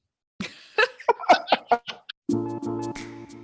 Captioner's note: laughing